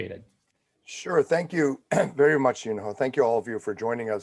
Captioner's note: clears throat